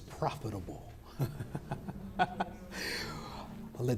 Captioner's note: laughing